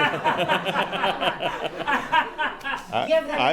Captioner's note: laughter